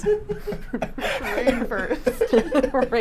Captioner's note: group laughs